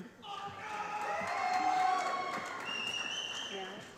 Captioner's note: applause